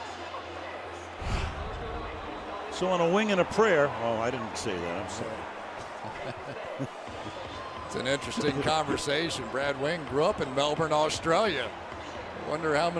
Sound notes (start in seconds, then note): 6.5 laughs